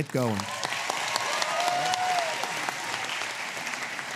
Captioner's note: applause